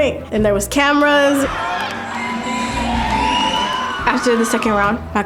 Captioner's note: audience cheering